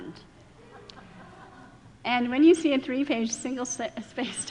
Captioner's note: laughing